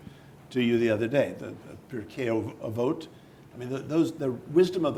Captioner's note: speaking in foreign language